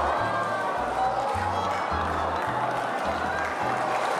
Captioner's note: crowd cheering